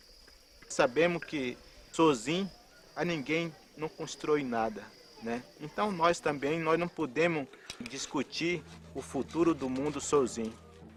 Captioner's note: speaking in portuguese